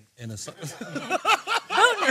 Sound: laughter

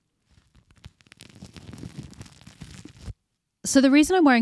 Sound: bread tearing

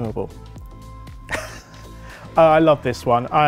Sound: laughter

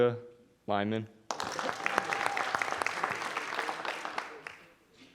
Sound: audience applauding

